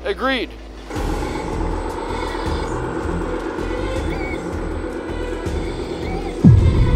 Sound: engine rumbling; dramatic music

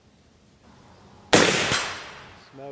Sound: rifle fires; voiceover

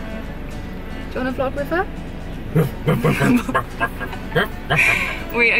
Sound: makes dog barking noises

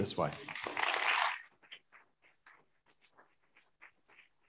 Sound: audience applauding

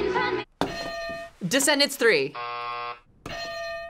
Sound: bell rings; buzzer rings; bell rings

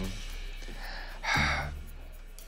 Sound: sighs

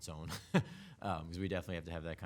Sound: chuckles

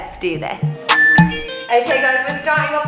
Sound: countdown timer beeping

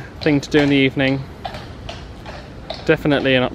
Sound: hooves thudding

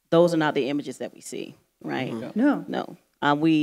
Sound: none

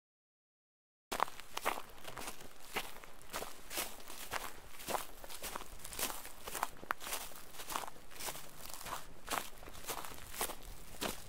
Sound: sound of footsteps

